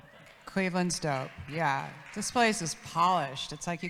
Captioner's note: audience claps